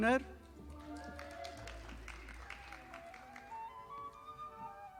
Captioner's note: audience applauding